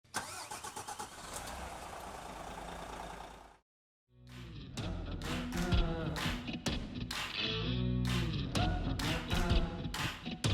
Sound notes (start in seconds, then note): 0.2 engine rumbling; 4.2 upbeat music